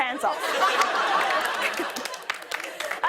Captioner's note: laughter